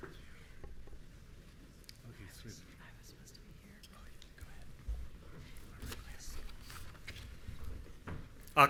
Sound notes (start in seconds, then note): 4.7 both chattering